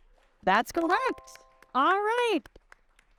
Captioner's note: audience clapping; bright chime